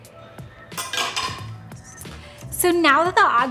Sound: utensil clattering

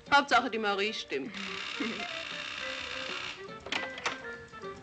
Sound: door buzzing

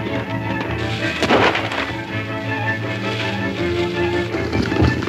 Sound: gunshot bangs; suspenseful music crescendos

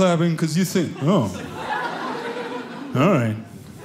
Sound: audience laughing

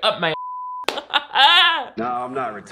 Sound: laughs

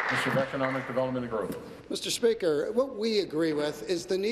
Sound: applause

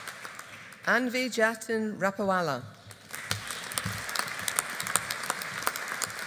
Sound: audience applauding

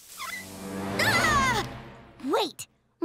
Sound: shrieking

